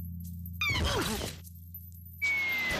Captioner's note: groaning